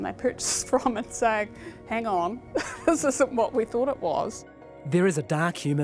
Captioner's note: chuckles